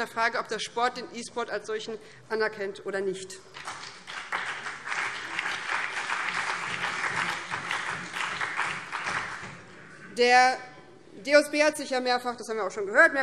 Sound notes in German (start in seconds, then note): 3.5 Beifall BÜNDNIS 90/DIE GRÜNEN, vereinzelt SPD und DIE LINKE